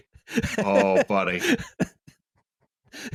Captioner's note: laughs